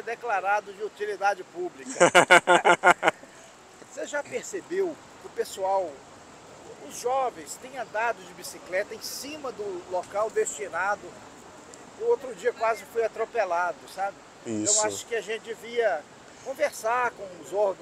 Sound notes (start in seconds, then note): 1.8 laughter